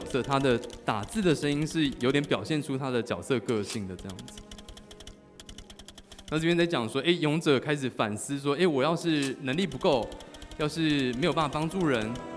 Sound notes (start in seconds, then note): none